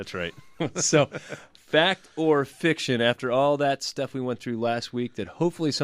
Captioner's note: laughs